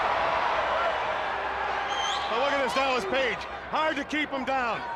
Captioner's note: crowd cheering